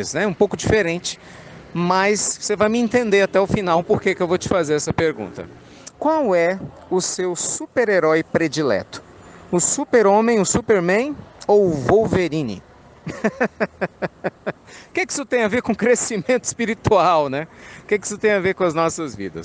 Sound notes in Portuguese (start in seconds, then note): 13.0 Risos